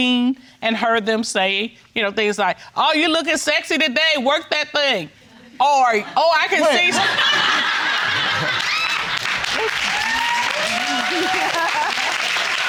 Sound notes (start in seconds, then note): 9.0 audience laughing and applauding; 11.1 audience exclaiming